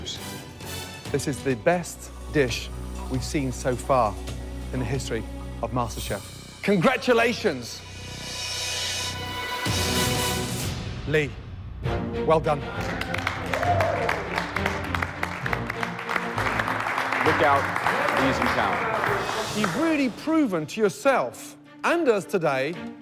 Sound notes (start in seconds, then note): 12.6 cheers and applause